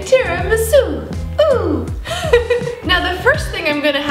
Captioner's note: laughs